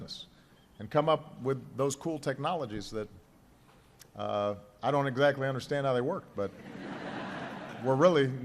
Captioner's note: laughter